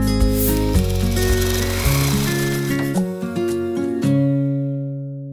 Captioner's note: upbeat music; reel rolling